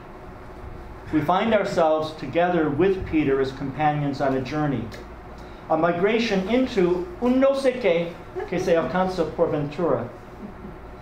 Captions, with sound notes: We find ourselves together with Peter as companions on a journey, a migration into (speaking a foreign language).